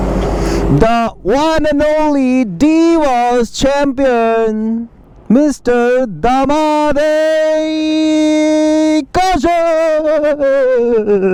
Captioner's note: imitating WWE announcer